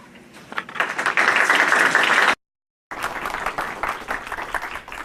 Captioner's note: applause